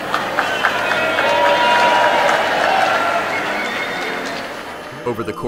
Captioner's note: applause